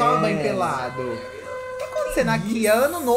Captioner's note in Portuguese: buzina